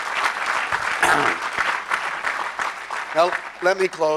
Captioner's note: crowd applause; clears throat